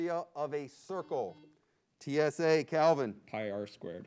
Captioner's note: buzzer beeps